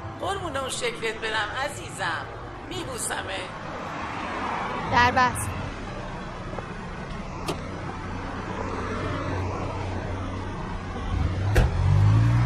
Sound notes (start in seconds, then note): 5.9 street noises; 11.4 car door closing; 12.2 revving car engine